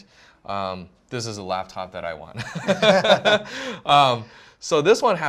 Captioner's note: laughs